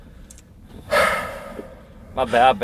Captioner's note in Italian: sospira